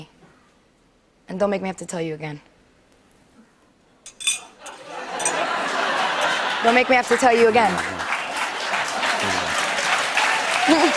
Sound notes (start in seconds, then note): 4.6 laughter; 8.0 applause